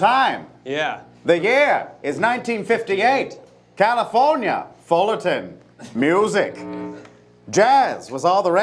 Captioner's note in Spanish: con acento